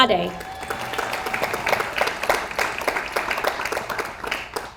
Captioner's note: audience applauds